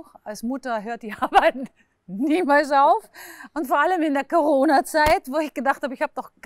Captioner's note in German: lacht